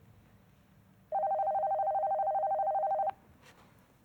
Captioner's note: ring tone